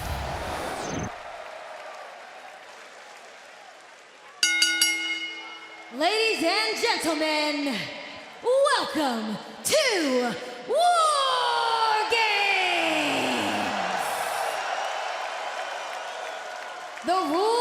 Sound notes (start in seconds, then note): 0.0 crowd cheering; 4.4 bell ringing; 14.8 crowd cheering